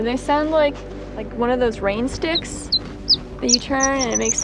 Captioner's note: Horned Lark call